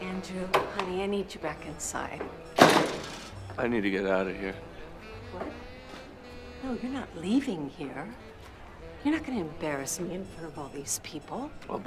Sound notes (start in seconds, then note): 2.5 door slams